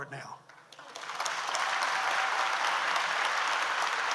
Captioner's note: audience applauds